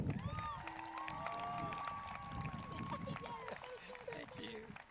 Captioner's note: crowd cheers